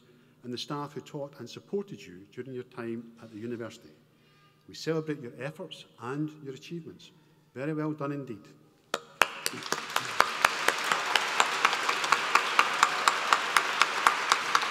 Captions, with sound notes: and the staff who taught and supported you during your time at the university. We celebrate your efforts and your achievements. Very well done, indeed. (APPLAUSE)